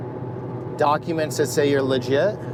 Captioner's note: none